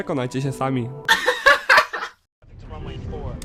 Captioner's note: laughter